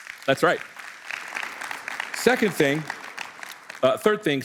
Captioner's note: applause